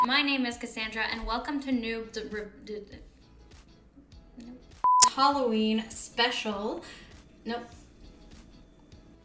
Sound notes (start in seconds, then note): 2.1 stutters